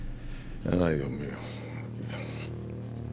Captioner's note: mumbling